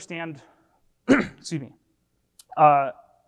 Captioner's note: clears throat